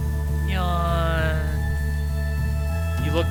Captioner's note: yawn